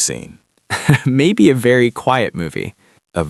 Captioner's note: laughs